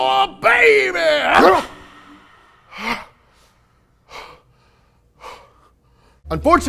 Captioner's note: grunts; heavy breathing